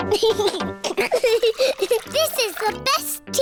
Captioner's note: giggles